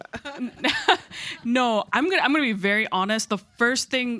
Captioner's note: chuckles